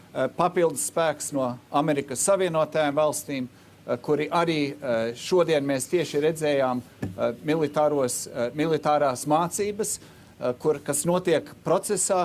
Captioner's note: speaking Alternate Language